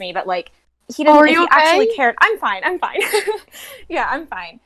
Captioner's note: laughs